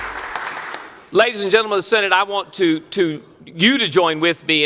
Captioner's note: applause